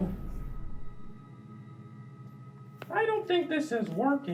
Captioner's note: spaceship beeping